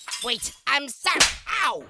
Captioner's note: slap